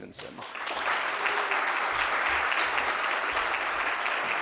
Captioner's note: audience claps